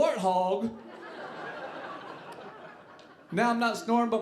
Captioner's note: audience laughing